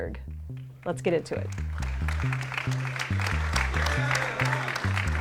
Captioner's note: attendees applaud